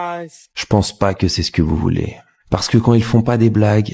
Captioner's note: french dialogue continues